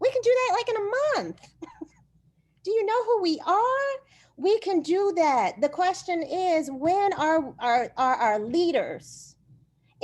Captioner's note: laughter